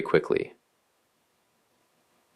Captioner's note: pause